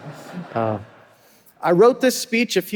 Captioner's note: audience laughing